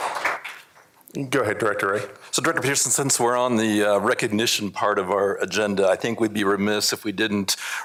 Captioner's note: applause